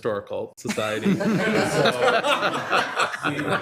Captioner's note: all laughing